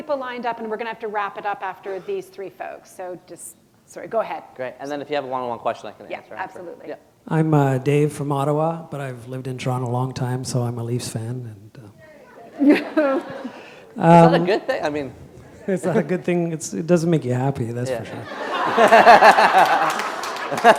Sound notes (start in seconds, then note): 14.5 chuckle